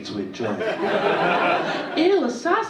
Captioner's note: audience laughing